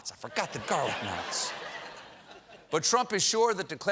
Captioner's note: laughter